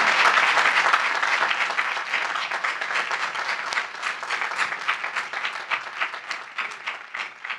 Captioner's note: applause